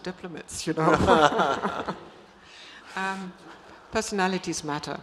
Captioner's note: Ambassador Haber and Daniel laugh